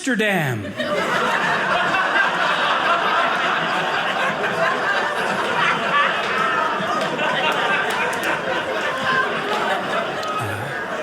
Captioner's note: audience laughing